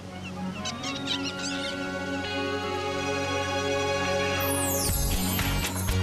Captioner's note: birds Singing